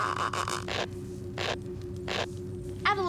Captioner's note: squeaking